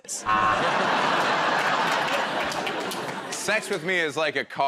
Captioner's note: laughter